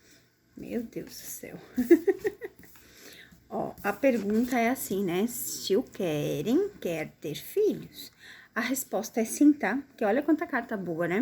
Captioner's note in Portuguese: risadas